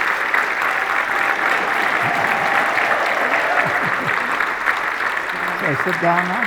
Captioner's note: audience members cheering